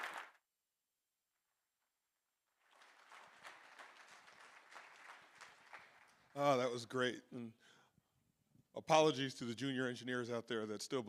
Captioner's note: applause